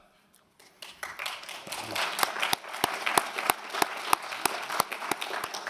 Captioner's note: applause